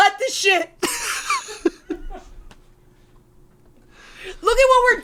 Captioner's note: laughs